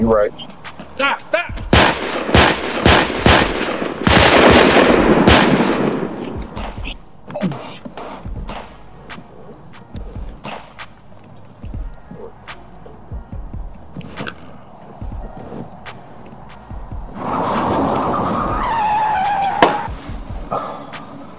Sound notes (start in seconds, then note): 1.6 guns firing; 6.9 suspenseful music; 16.4 tires squeal; 16.6 engine revs